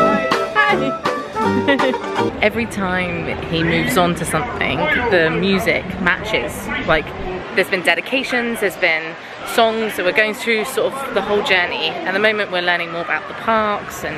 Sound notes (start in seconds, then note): 1.4 laughing